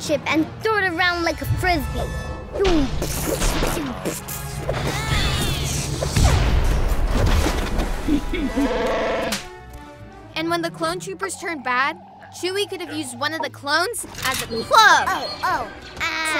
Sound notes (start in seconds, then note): 2.7 makes explosion sounds; 7.9 yoda chuckles; 8.2 chewbacca growls